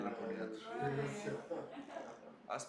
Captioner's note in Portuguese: risos